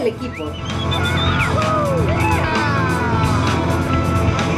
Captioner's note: screams